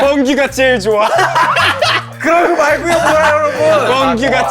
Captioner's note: laughing hard